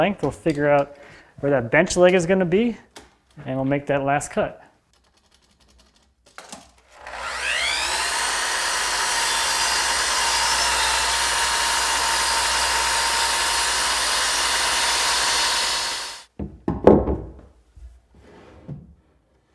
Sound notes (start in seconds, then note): 7.5 saw whirring